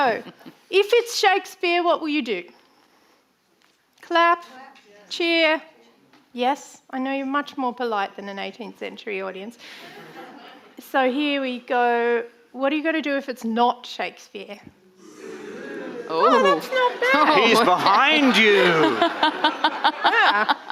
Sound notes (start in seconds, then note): 0.0 actors laughing; 9.8 audience laughing; 15.0 audience booing; 18.4 laughs